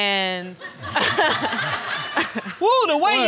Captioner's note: laughs